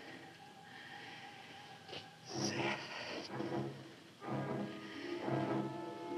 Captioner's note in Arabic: تنفس ثقيل